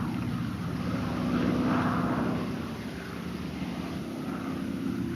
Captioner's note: airplane engine roaring